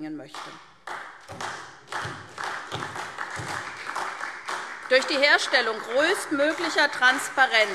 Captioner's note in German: Beifall SPD und DIE LINKE